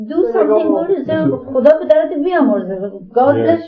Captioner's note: speaking in Farsi